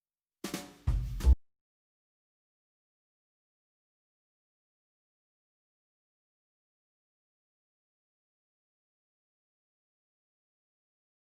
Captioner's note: gavel